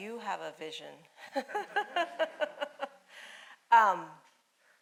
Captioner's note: laughing